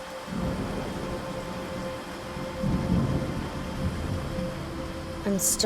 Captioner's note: gentle music; thunder rumbling